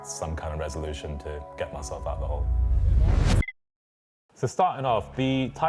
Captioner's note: air whooshing